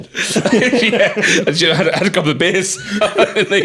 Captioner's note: laughing